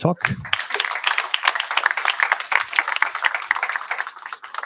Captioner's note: applause